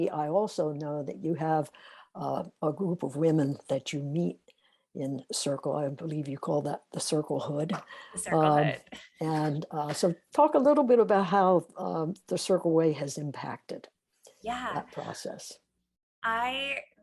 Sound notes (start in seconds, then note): 7.7 laughs